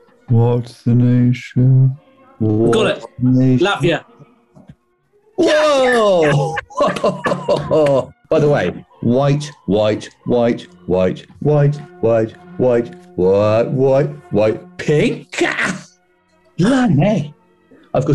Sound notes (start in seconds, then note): 5.7 laughing; 17.4 gasps